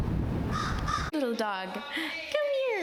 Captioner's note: crows cawing